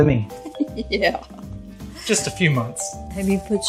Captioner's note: laughs